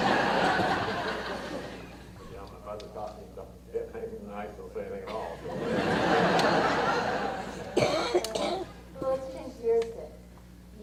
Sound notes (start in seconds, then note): 0.0 audience laughter; 5.1 audience laughter